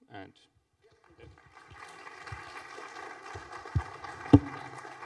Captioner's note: applause